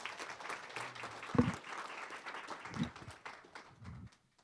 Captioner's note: applause